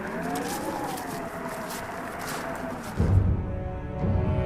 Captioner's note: wind whistling